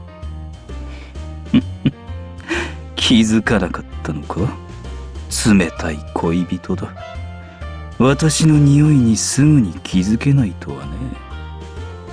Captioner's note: chuckle